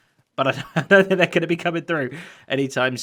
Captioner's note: chuckles